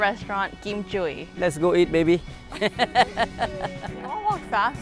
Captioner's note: laughs